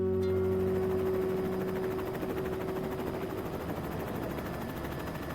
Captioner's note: helicopter blades whirring